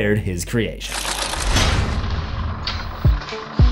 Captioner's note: impact